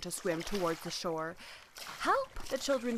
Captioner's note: river rustling